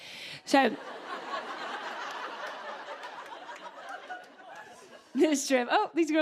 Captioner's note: laughter